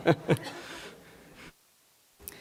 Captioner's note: laughs